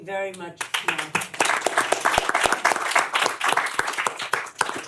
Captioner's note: applause